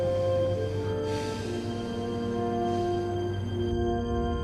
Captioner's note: sigh